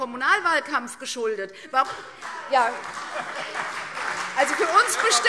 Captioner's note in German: Beifall CDU und BÜNDNIS 90/DIE GRÜNEN - Zurufe SPD